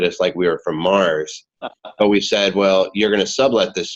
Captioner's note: laughing